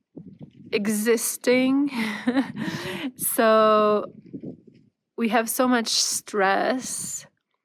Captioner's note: laughter and gasps